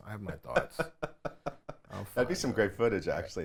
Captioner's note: laughs